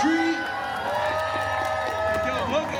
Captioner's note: guests cheering